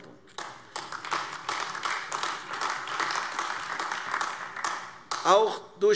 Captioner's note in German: Beifall AfD